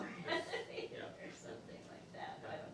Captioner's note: laughter